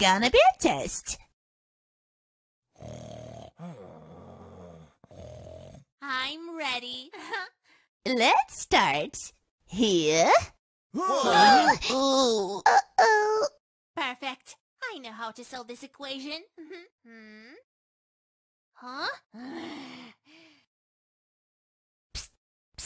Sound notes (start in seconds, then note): 11.0 making angry sounds